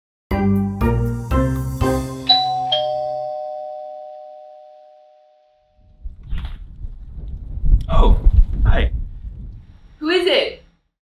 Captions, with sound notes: [Doorbell] Oh. Hi! Who is it?